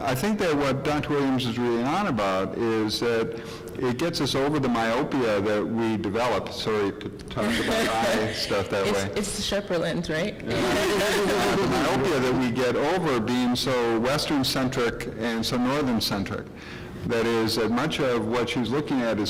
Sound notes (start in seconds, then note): 7.4 laughing; 10.5 laughing